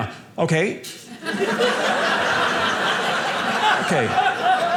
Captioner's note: audience laughing